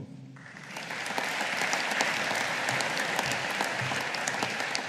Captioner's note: audience applauding